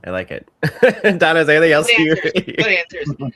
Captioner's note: laughs